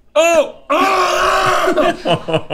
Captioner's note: Rhett screams; laughs